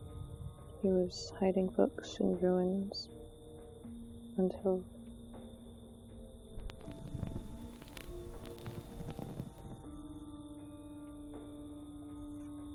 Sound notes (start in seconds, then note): 6.5 candle flame crackles